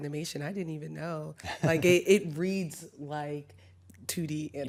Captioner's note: chuckles